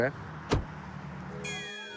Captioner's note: door bangs